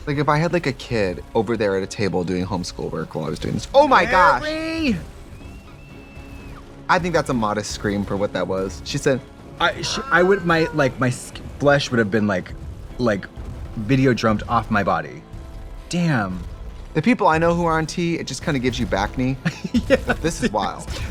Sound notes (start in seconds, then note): 6.2 dramatic music; 9.6 screams weakly